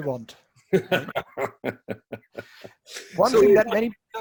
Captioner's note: laughing